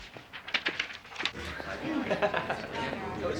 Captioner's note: chatter